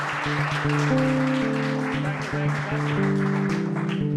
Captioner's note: cheering